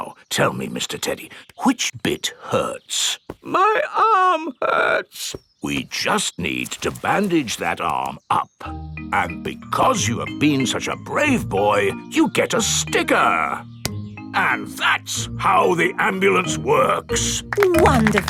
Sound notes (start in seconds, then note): 3.9 in teddy's voice; 6.1 in normal voice